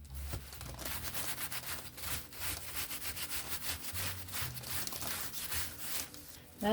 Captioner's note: noises of griming the flag up with paint